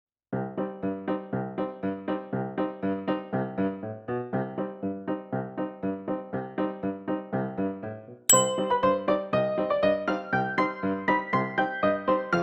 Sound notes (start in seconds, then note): 0.0 whimsical piano music; 8.2 whimsical piano music continues; 8.3 bell ping